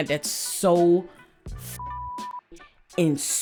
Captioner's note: beep